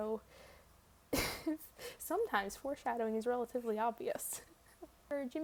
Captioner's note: laughs